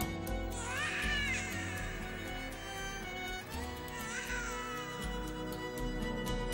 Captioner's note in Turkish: bebek ağlama sesi̇